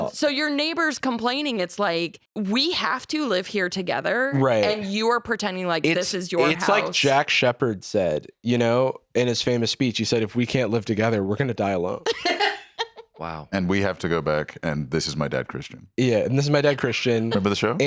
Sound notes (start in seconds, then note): 12.0 laughs